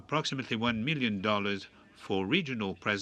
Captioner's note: speaking French